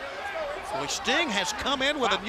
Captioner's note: crowd chatter